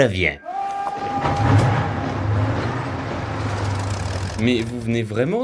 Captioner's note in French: sirènes